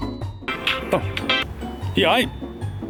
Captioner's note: phone rings